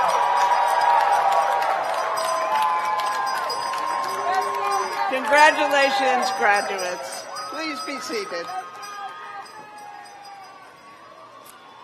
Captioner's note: cheers and applause